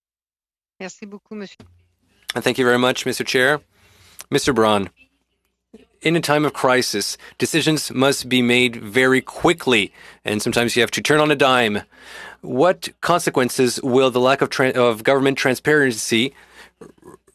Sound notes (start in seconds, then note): 6.9 speaking French